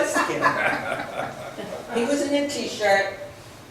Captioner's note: laughs